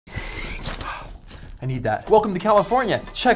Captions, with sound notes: - (inhaling deeply) (exhaling quickly) I need that. Welcome to California.